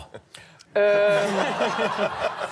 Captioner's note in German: Lachen